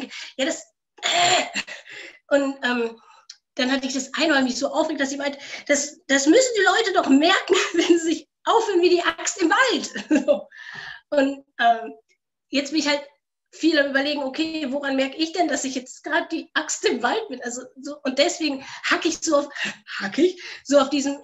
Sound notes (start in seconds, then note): 10.5 laughs